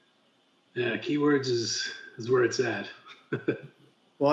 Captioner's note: laughs